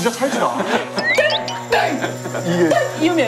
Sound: catchy sound; the annoying pitch

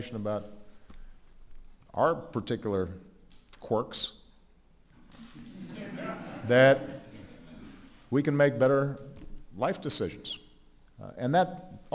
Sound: laughter

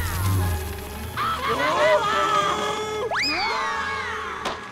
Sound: screaming

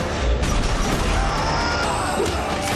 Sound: screaming

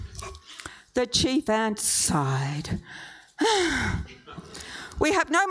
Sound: sighs

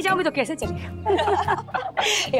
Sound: laughs

